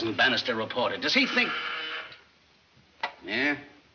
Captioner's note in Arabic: صوت طنين جهاز الاتصال الداخلي